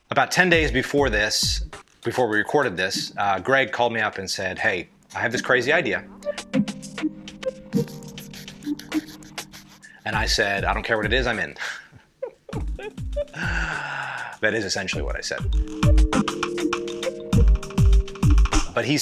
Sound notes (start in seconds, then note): 6.2 mid tempo music; 12.2 laughing; 15.9 mid tempo music